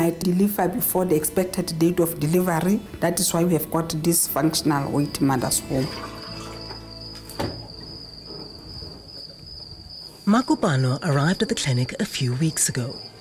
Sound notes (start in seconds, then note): 6.3 running water; 8.4 cricket sounds